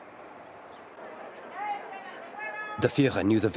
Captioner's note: people chattering